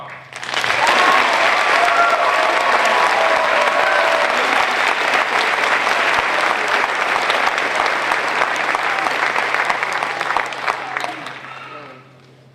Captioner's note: applause